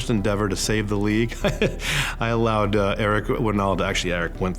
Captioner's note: laughs